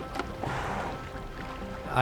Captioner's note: whale breaching sound